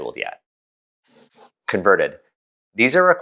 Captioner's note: pencil scribble